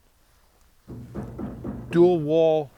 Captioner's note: loud banging